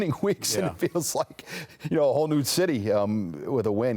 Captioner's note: laughter